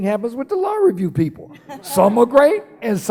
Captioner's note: laughing